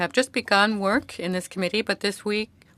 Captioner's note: speaking French